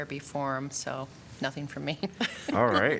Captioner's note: laughter